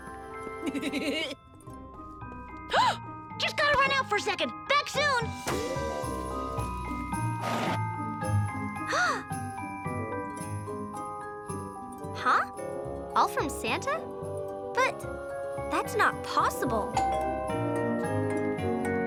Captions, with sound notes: (Milo giggles) (Mom gasps) Just gotta run out for a second. Back soon! (Lizbeth gasps) - Huh? All from Santa? But that's not possible. (doorbell rings)